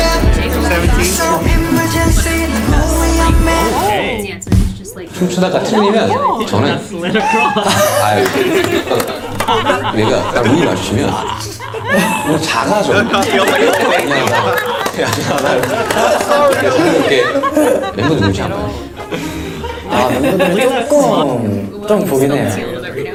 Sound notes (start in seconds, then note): 16.2 haha